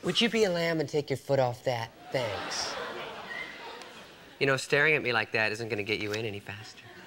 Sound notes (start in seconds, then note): 2.0 audience laughs